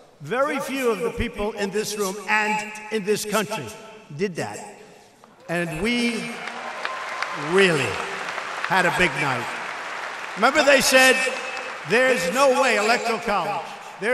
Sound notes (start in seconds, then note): 9.4 applause